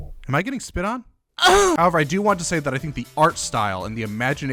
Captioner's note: moan